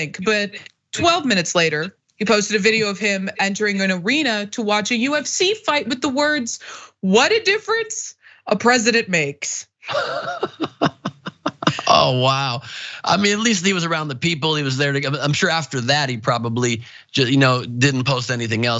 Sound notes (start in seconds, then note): 9.8 laugh